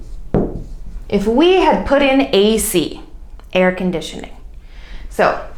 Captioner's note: air conditioning